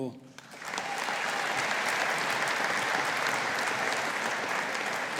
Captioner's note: audience applauding